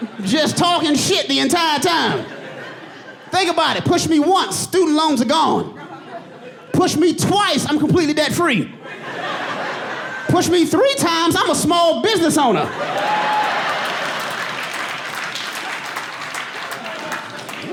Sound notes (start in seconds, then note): 12.6 audience laughing